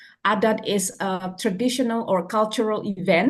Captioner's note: foreign language